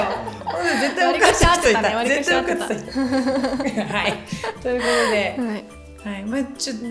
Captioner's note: laughs